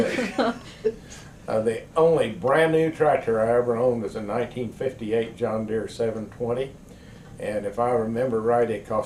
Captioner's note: laughter